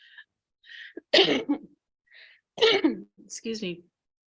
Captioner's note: coughing